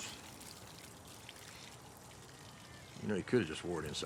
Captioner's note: water splashing